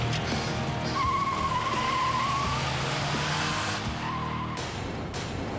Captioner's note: tires squealing; dramatic music